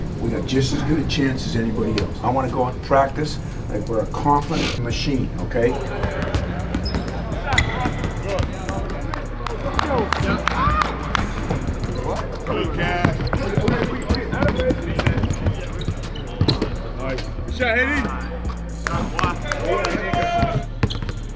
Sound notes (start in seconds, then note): 9.7 clapping; 13.3 shoes shuffling; 18.8 clapping